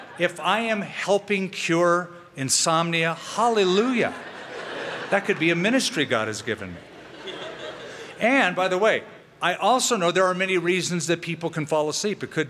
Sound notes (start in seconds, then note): 4.1 laughter